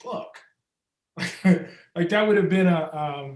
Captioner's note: Ta-Nehisi chuckles